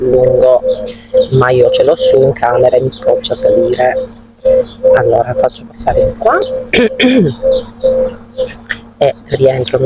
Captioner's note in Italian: schiarire la voce